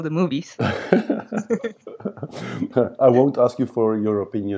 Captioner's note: both laugh